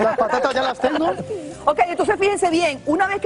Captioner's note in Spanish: risas